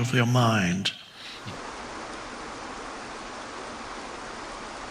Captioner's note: water rushing